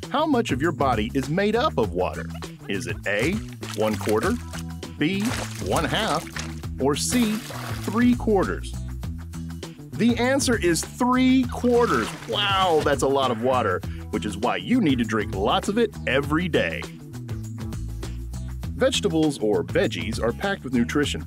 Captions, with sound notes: How much of your body is made up of water? Is it A. one quarter, (water splashing) B. one half, (water splashing) or C. three quarters? (water splashing) The answer is three quarters! (water draining) Wow, that's a lot of water! Which is why you need to drink lots of it, every day. Vegetables, or veggies, are packed with nutrition